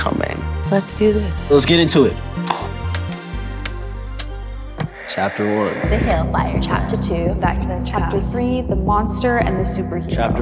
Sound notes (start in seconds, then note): 2.4 claps; 2.8 remotes clicking